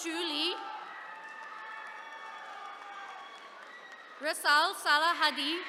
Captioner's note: attendees cheering